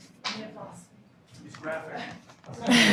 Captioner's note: woman speaking off microphone